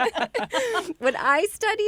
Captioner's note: all laughing